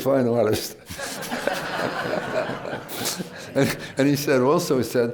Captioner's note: laughter